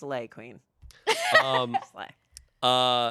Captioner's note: laughs